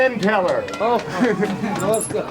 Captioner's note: non-english speech